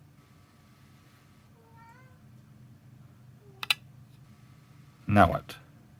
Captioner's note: mournful cat noises